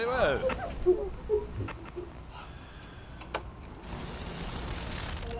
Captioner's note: static buzzing; cloth squeaking